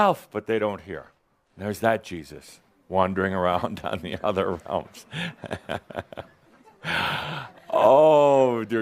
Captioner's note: Adamus chuckles